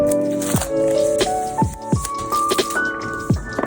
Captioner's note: plastic rattling